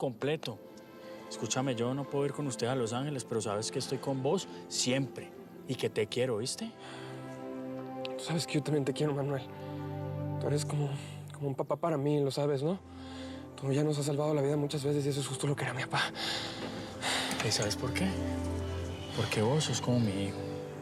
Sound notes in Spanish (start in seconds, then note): 7.2 lloroso; 16.1 exhala